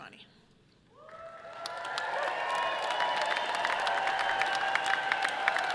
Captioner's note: audience cheering loudly